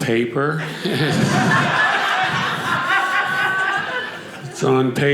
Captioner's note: audience laughing